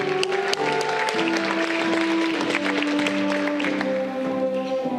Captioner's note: audience clapping